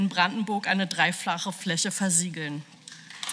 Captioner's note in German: Beifall